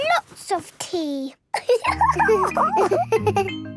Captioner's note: giggles